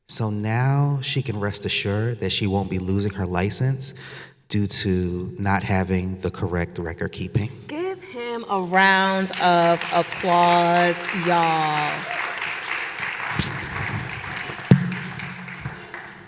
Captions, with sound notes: So now she can rest assured that she won't be losing her license due to not having the correct record keeping. - Give him a round of applause, you all. (audience applauding)